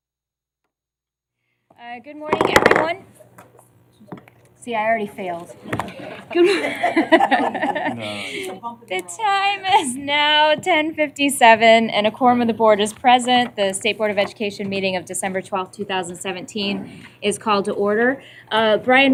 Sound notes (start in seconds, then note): 5.7 laughter